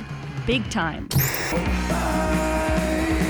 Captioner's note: static crackles